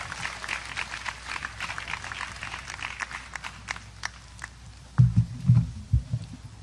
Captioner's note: audience applause